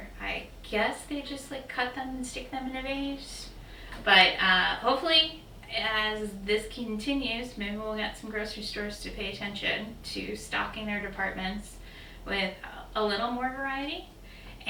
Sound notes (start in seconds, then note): none